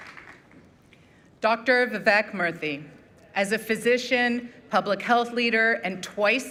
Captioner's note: applause